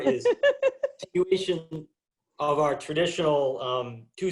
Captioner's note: woman laughs